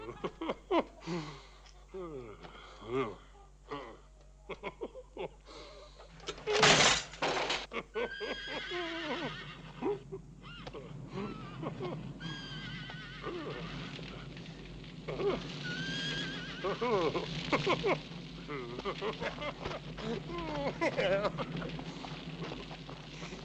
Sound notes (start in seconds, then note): 0.7 groaning; 3.7 laughing; 10.6 grunting; 21.1 laughing